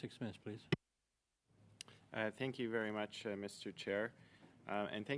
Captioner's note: speaking French